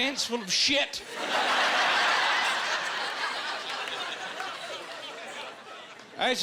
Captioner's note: laughing